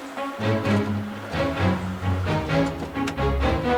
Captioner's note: turns off engine